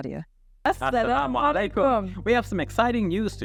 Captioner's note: both speaking Arabic